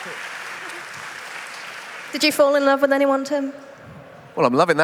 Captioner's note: laughter; applause